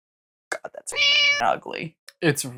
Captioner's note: meow